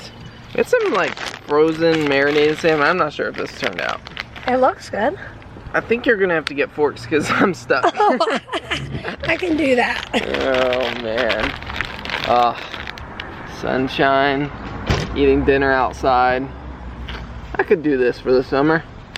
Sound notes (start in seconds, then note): 7.7 laughter